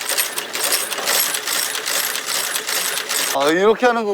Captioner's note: machine ASMR